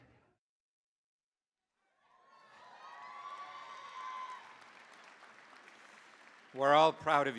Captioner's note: cheering, applause